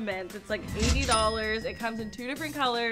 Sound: cash register dings

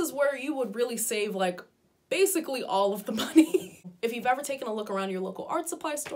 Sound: giggles

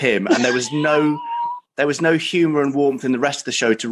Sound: breathless laughing

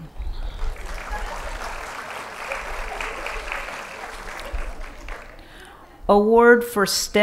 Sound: applause

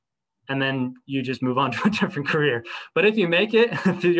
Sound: laughter

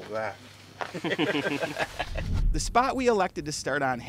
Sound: laughter

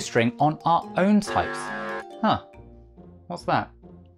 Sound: alarm

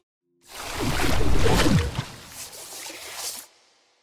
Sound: splashing

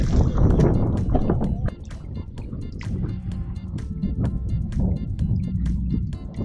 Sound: water splashing, wind blowing

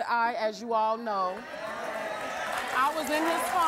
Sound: audience cheering and applause

